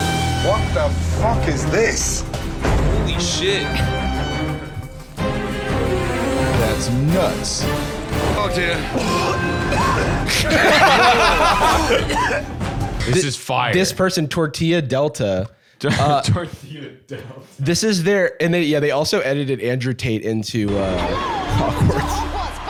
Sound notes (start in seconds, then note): 8.8 all laughing; 15.8 laughing